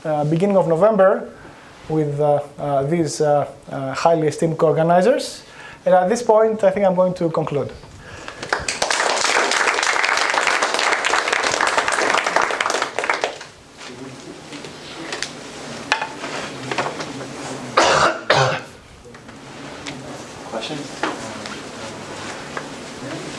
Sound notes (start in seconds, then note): 8.2 applause